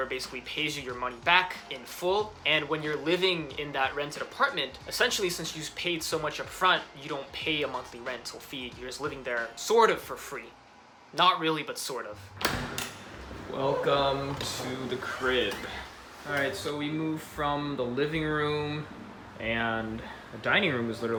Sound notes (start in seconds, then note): 12.4 door Unlocking; 12.9 energetic Music